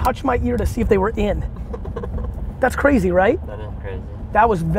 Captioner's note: laughs